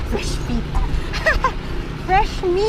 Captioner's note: laughs